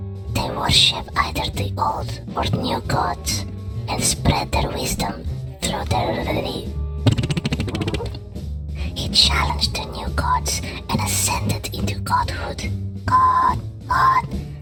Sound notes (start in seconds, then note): 7.0 Yúlia mouth farts